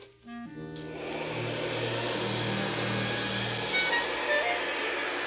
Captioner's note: curious music; vacuum whirs